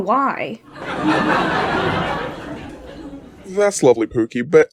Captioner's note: audience laughs at POOKIE